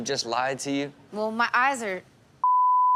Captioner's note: beep